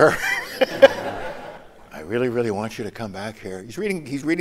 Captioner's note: laughter